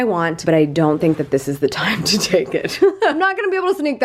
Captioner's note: laughs